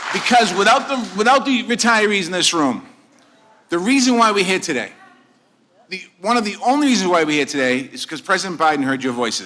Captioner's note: applause